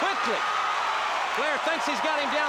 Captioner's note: crowd cheering